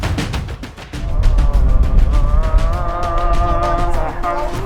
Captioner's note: foreign language